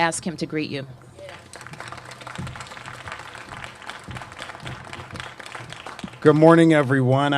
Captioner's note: applause